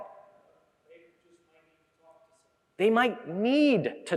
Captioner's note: speaking softy